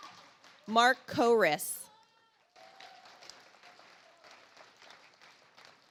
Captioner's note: audience applauds